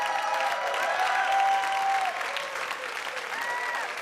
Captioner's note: audience cheers